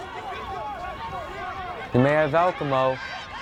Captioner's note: fans yelling